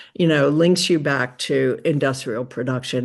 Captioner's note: none